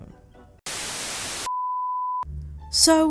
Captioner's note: static